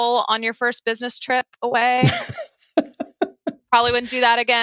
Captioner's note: laughing